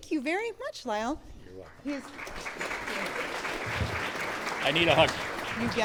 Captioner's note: clapping